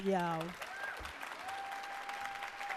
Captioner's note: cheers and applause